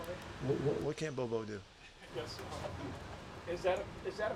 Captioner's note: chuckles